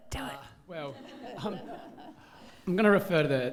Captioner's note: audience laughing